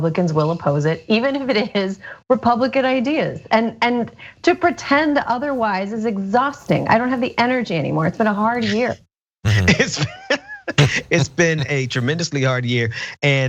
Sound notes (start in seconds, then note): 9.4 laugh